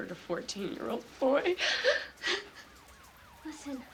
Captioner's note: sirens wailing